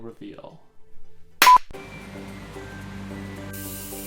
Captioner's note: beeping sound; hands clap; soft music; spray paint spraying